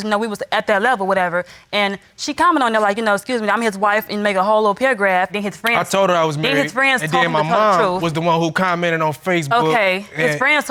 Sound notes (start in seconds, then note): none